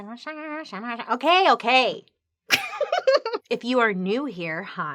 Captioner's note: laughs